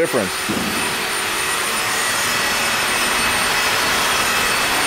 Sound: metal grinding

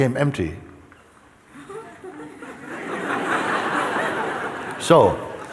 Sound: laughter

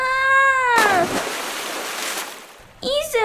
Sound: splash!

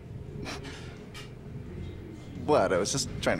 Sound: laughs

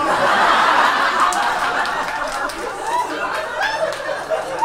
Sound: audience laughs

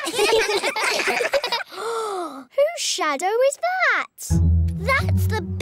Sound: all giggle; gasps

